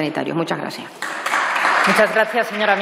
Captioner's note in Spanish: Aplausos